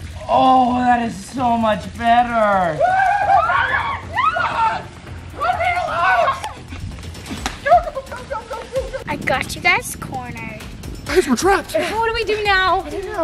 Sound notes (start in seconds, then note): 2.8 screaming